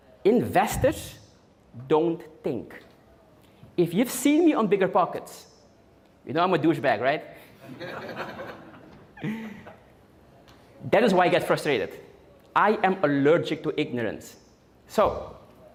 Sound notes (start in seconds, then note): 7.6 audience Laughing